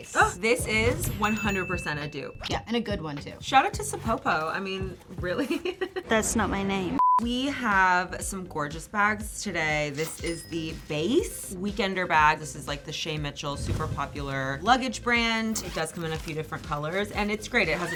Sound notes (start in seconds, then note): 5.3 giggling; 7.0 beeping